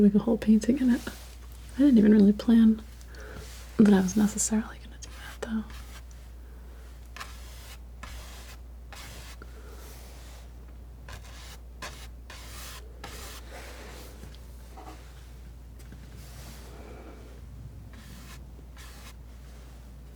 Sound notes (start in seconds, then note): 6.0 scratching